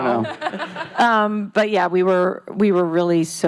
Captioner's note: laughing